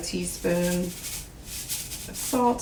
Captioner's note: salt shaking